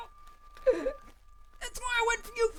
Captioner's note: sobs